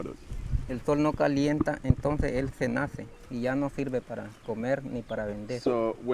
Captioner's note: speaking Spanish